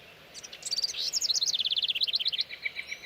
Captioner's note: birds chirping